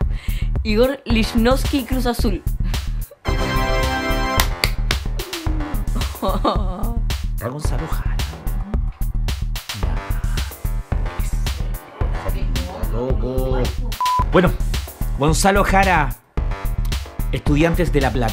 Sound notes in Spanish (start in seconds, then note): 4.3 Aplausos